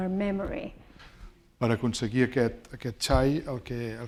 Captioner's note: speaking spanish